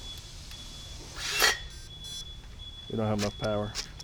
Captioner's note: drill beeps